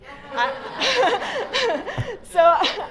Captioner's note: laughter